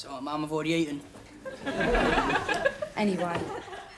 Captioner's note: audience laughing